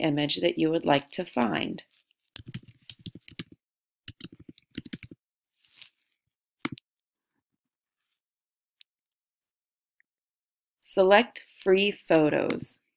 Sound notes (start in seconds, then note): 2.3 typing